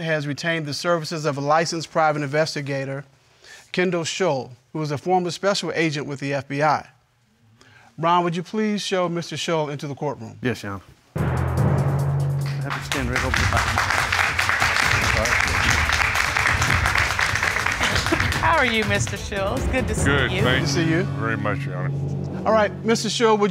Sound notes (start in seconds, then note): 14.8 audence applauding